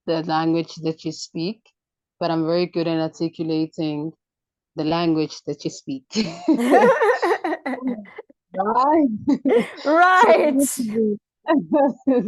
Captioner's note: chuckles; laughs